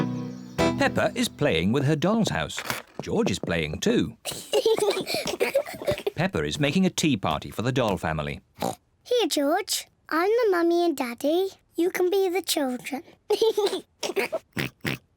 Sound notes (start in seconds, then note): 4.2 both giggling; 8.6 oinks; 13.3 giggles and oinks